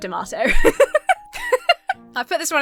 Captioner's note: laughs